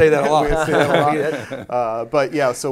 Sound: all laughing

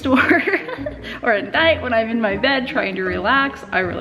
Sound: laughs

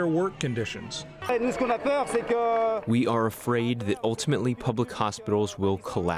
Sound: through translator

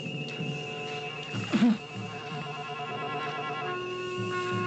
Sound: Gary groaning

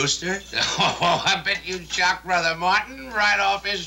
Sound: chuckles

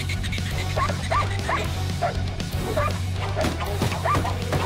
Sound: barking

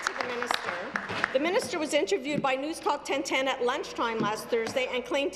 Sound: applause

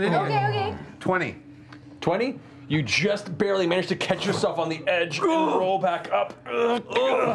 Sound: straining

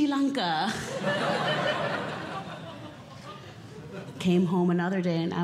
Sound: audience Laughing

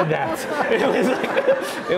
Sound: laughs

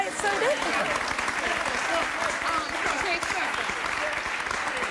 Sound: applause

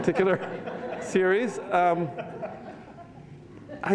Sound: laughter

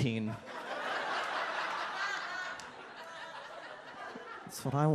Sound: audience laughs

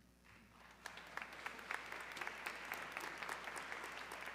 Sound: audience clapping

